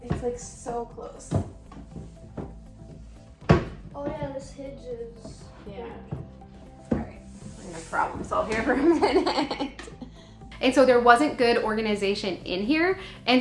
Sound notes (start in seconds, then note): 1.6 light music continues; 8.7 laughing